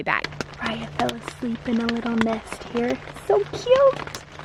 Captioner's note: whispering